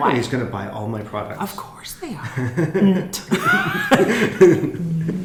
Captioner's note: laughing